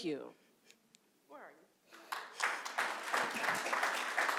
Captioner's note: applause